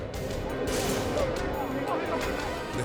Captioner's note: tense music; officers chattering